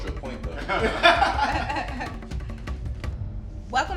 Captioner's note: all laughing